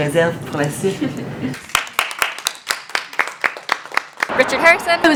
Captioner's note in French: Applaudissements